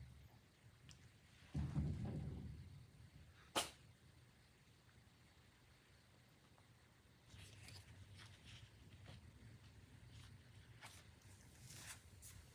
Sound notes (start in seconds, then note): 3.5 sneezes